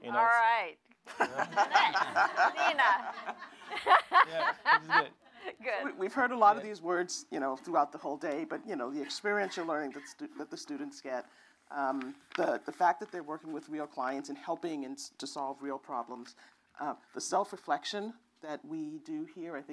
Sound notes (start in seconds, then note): 1.0 laughter